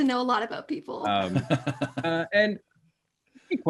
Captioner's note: chuckling